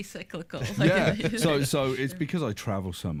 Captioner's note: laughing